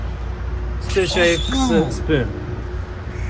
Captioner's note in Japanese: 効果音 シャキーン✨